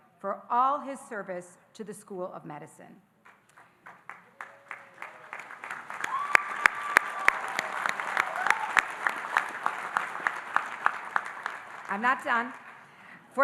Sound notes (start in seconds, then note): 3.8 audience applauding and cheering